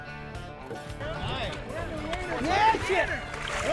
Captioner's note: chattering